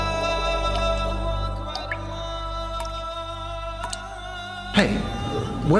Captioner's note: water dripping